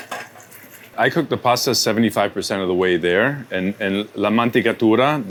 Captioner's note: speaks Italian